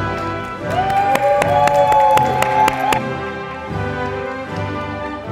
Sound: audience applauding

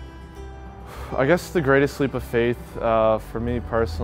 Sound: exhales

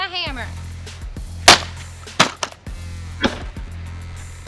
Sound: hammer thuds

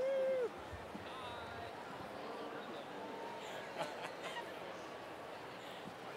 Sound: laugh

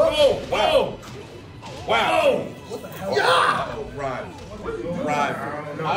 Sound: laugh

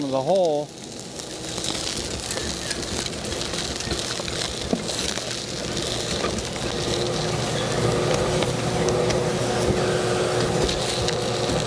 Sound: sound Scraping and Vacuum

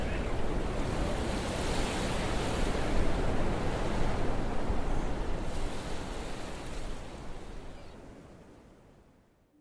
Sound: waves crashing quietly

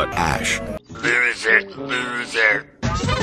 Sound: voice modulated by Loser Horn

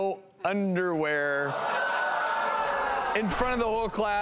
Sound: crowd booing

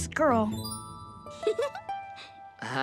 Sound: giggling

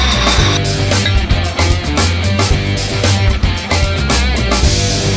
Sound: bottle clinks

